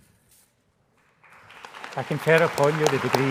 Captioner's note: applause